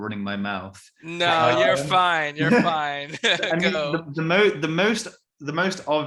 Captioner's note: laughing